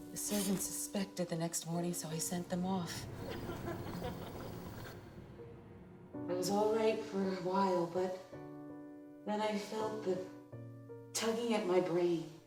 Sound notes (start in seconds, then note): 0.0 sizzling; 3.1 laughing